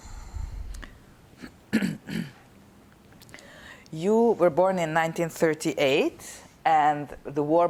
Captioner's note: clears throat